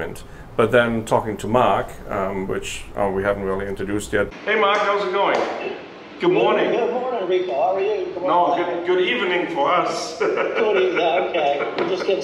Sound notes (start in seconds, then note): 9.7 laughing